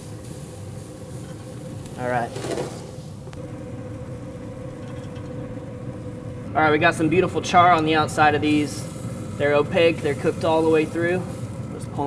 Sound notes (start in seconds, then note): 2.9 sizzling